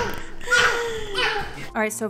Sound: laughing; grunting

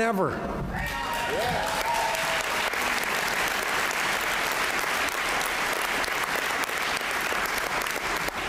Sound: applause

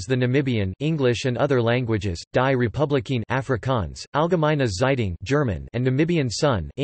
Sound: German

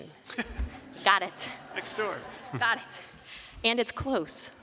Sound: laughter

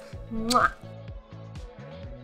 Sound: kissing; upbeat music

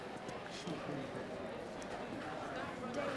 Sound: people chattering

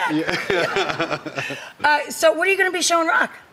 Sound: laughs

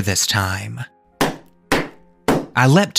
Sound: banging

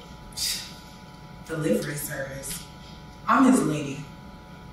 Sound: scoffs

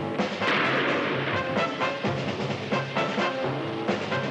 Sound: gun firing

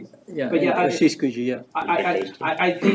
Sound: indistinct chatter

